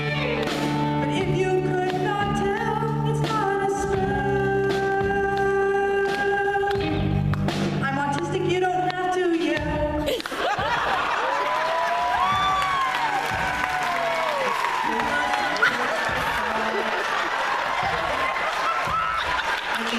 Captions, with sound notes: but if you could not tell it's not a spell. I'm autistic. You don't have to yell. (laughter & applause) There were some perks, they thought. (applause & laughter in background) (laughter)